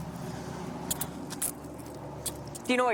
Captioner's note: handcuffs clicking